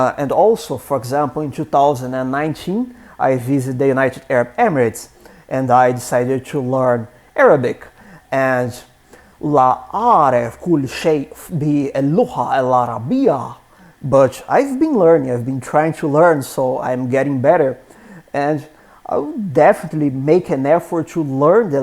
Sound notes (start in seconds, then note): 11.7 speaking in Arabic